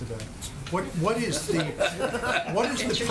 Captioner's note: laughter